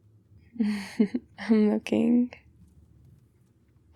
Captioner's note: laughs